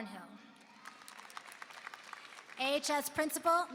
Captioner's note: applause